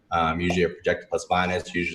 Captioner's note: popping sound